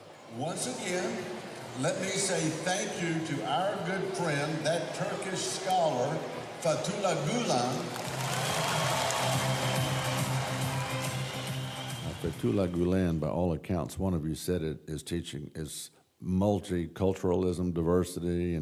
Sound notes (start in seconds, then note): 8.2 cheers and applause